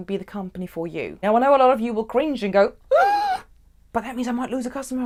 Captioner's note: gasps